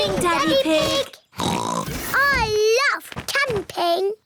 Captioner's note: oinks